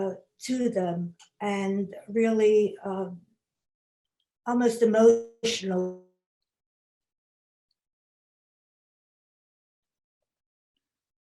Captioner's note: lost audio